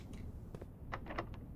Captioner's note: door opens